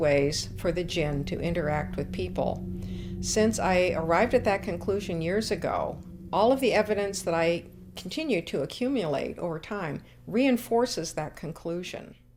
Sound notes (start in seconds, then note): none